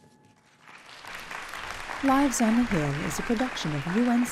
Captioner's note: applause